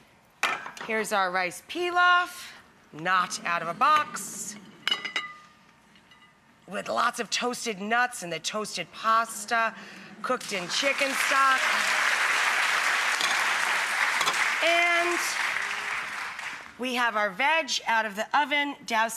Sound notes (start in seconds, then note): 10.4 audience applauds